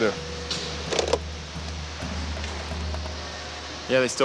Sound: phone clanks

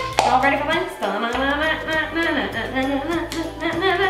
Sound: humming dance music

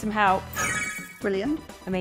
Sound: graphics chiming

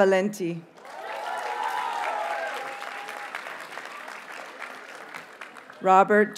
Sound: audience cheers and applauds

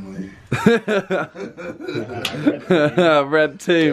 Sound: laughing

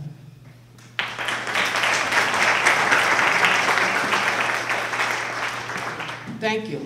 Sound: applause

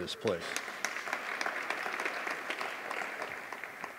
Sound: audience applauding

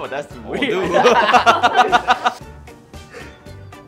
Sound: laughing

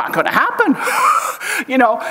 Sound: chuckles

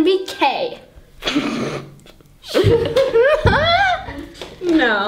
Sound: laughs

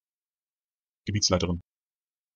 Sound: fast Pronunciation

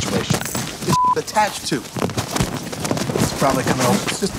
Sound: beep

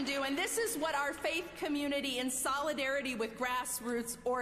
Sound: applause

